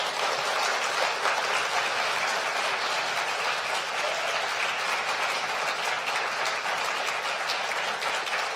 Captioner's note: applause